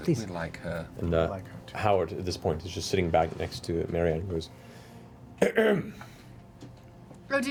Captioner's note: clears throat